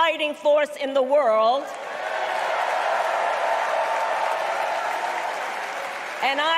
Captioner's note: cheering